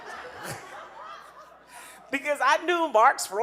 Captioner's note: audience laughing